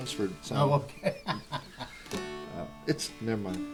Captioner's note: laughter